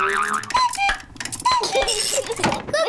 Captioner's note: clock chimes; laughs